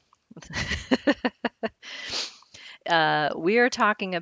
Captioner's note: laughs